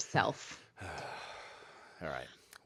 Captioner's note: sighing